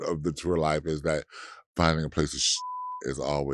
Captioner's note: beeps